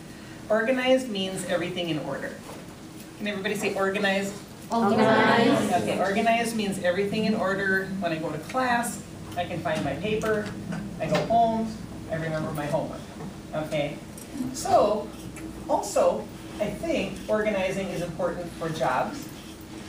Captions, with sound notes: Organized means everything in order. Can everybody say organized? - [Voiceover] Organized. - Organized means everything in order. When I go to class, I can find my paper. I go home, I remember my homework. Also, I think organizing is important for jobs.